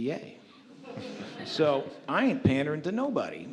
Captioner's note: audience laughs